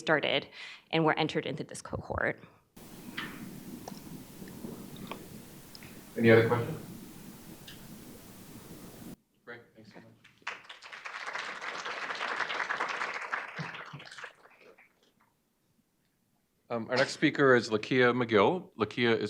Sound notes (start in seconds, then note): 10.3 audience applauding